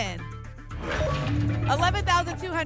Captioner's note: lock sound